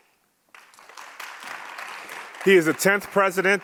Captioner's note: audience applauds